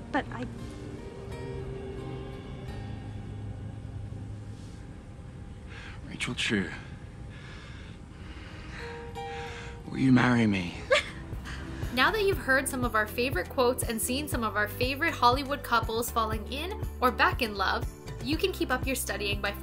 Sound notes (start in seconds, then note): 0.0 soft romantic music; 10.8 Rachel chuckling